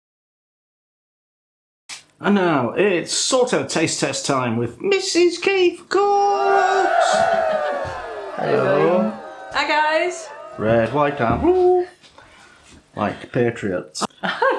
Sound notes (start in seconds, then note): 6.0 cheerin